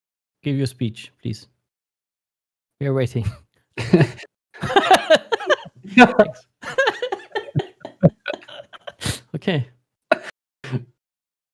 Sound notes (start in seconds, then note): 4.5 laughter